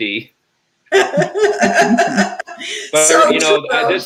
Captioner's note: laughs